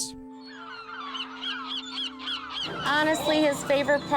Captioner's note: seagulls squawking